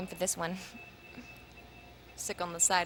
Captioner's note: beeps